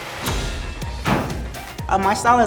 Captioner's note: upbeat music; basketball falling through rim and net